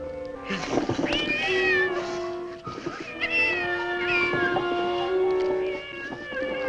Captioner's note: cat Meowing